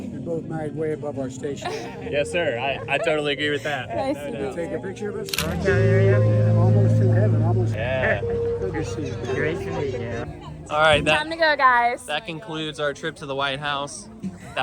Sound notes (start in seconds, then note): 1.6 laughs; 5.3 camera clicks